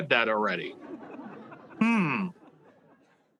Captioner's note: audience laughing